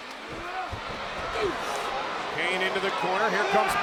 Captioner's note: Kane grunts